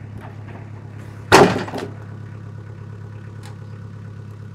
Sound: wood clatters

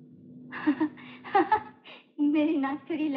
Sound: laughing

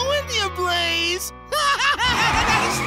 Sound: laughing

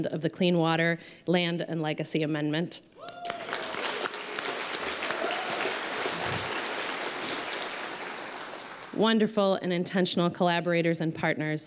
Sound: applause

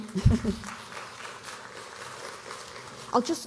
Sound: applause

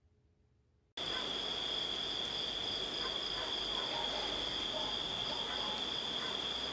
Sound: crickets chirping and dogs barking

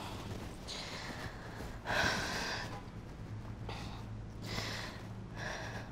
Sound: laboured breathing

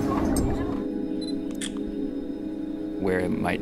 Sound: camera shutter clicking

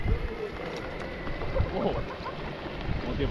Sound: laughs

